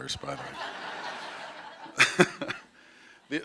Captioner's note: laughter